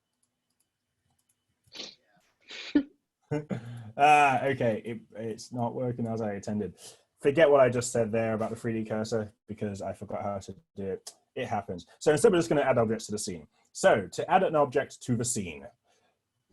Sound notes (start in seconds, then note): 2.6 laughs